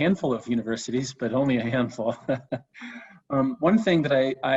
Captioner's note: chuckles